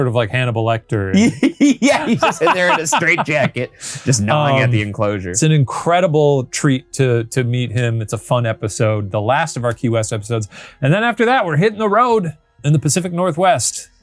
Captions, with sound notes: like Hannibal Lecter. - Yeah, he's just in there (both laughing) in a straight jacket, just gnawing at the enclosure. - It's an incredible treat to meet him. It's a fun episode, the last of our Key West episodes. And then after that, we're hitting the road in the Pacific Northwest.